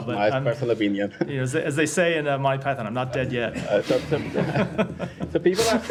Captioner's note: laughter